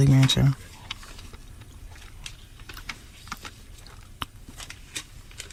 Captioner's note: crunching